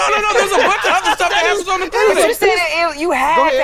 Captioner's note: chatter